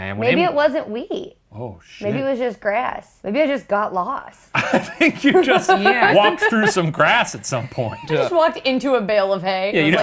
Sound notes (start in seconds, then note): 4.6 laughs